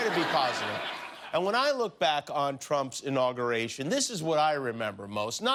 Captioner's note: laughter